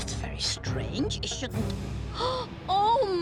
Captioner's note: gasping